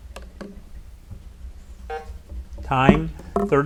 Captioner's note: buzzer buzzes